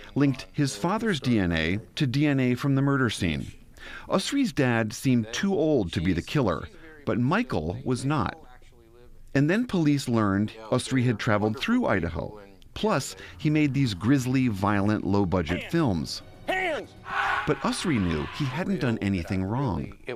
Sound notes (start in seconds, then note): 17.0 man screaming